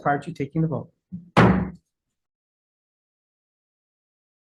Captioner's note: gavel thudding